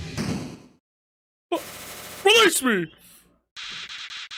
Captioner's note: stammers